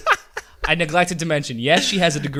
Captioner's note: laughs